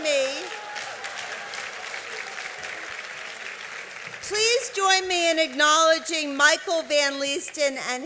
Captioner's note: applause